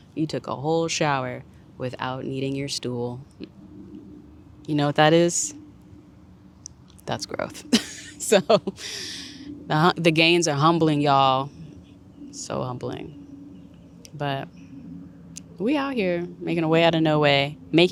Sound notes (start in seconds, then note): 7.7 chuckles